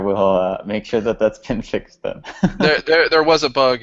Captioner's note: laughs